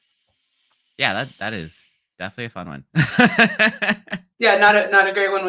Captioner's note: laughs